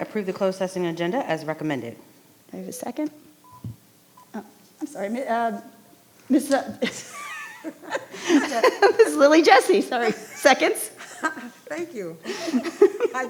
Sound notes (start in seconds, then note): 6.8 laughs